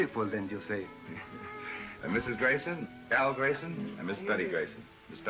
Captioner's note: laughs